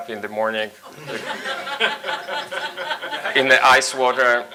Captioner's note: audience laughs